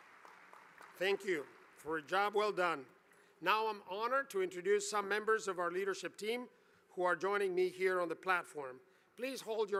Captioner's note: applause